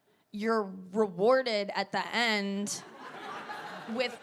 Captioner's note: audience laughs